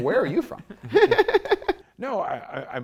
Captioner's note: laughter